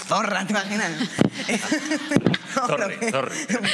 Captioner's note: laughing